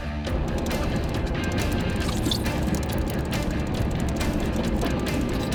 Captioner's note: fishing line whirring